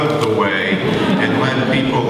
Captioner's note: audience laughing